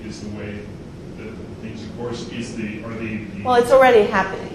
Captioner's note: speaks faintly